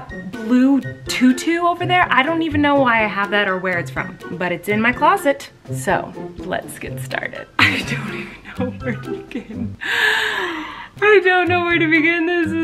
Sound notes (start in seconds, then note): 9.8 gasping